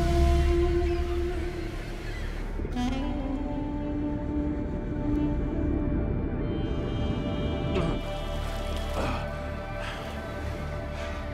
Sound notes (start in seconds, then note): 8.7 panting